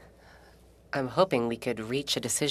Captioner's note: speaking French